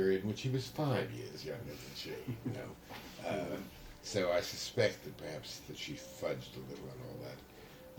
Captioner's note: laughter